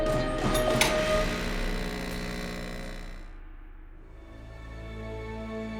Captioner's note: electric buzzing